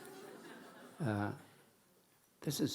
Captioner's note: audience laughing